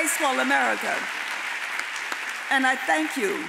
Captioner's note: audience applauds